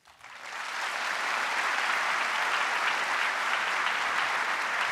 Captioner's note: audience applauding